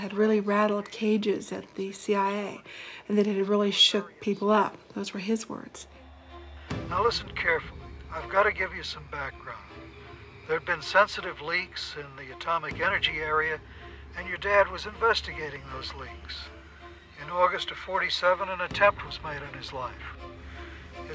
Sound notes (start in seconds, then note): 6.8 on phone